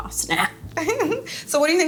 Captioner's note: laughs